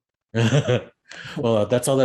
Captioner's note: laughs